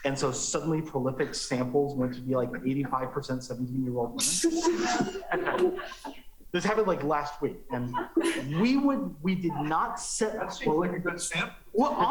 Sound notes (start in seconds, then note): 7.7 laughter